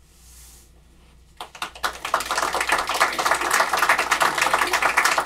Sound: applause

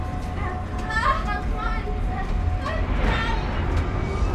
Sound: Morgan groaning

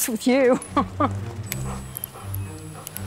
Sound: laugh

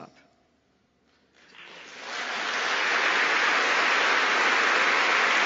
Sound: applause

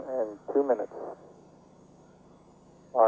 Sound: APU's running

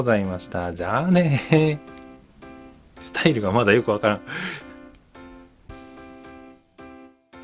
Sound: laughs

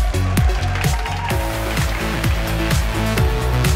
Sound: crowd cheering and applauding

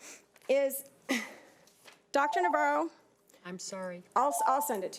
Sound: alarm beeping

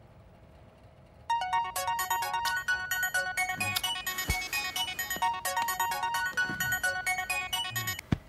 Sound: phone Ringing

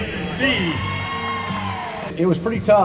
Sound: crowd cheering

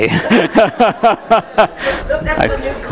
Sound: laughter

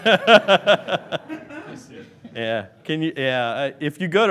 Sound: laughing

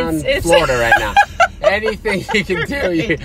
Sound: laughs

